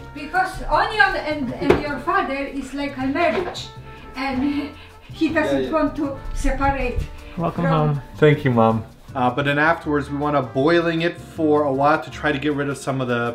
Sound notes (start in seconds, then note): 4.1 laugh